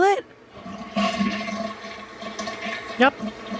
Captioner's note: toilet flushes